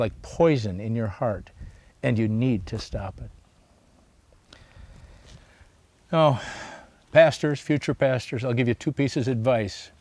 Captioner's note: sighs